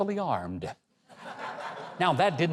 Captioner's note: audience laughs